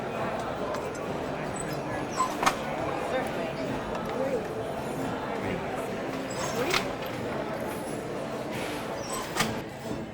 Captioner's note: handloom creaking and clanking